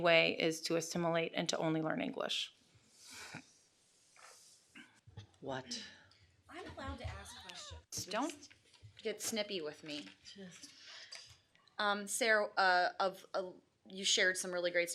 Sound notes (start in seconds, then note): 5.8 sighing; 8.2 laughing